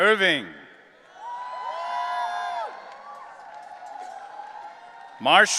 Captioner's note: audience cheering